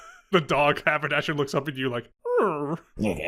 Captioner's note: dog whimper